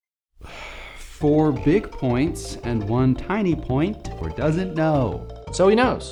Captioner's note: sigh